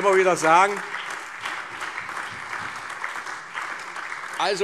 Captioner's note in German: Allgemeine Heiterkeit und Beifall